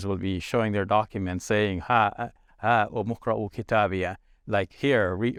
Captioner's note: speaks Arabic